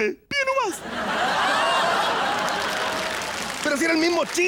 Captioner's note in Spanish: Risas y aplausos